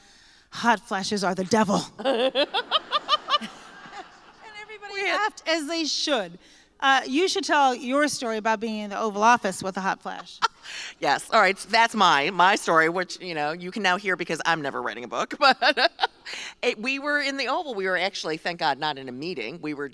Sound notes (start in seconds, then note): 2.0 laughter